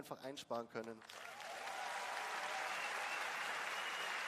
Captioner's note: applause